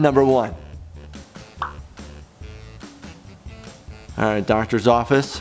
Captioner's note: pop sound